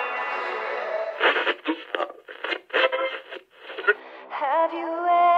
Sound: radio tuning

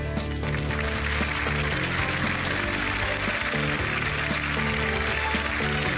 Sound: applause

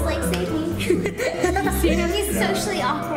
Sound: laughing

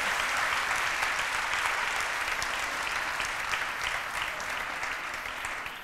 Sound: applause

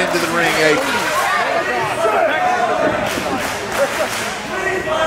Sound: crowd cheering

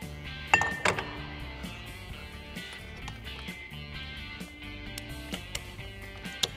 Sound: rock music; metallic clanking

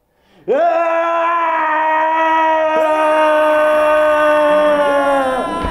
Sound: screaming

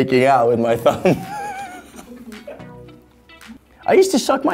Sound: laughing

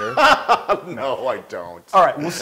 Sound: laugh

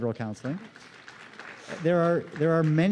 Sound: applause

